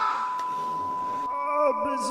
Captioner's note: tinnitus